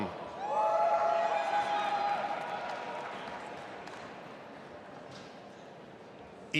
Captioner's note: audience applauding and cheering